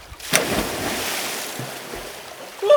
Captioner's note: water splashing